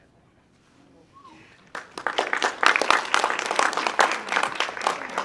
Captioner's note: audience clapping